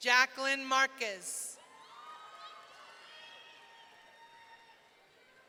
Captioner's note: audience cheering